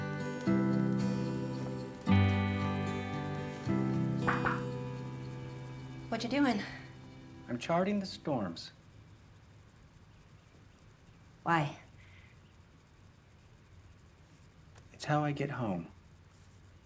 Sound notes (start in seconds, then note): 4.2 knocking